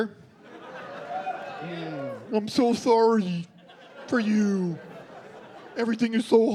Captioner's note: dopey voice